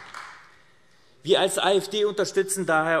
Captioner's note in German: Beifall AfD